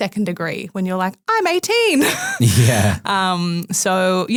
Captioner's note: laughs